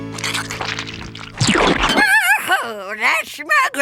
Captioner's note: squishing